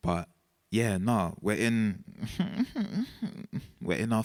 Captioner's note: man whining